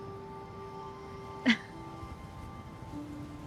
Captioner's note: chuckles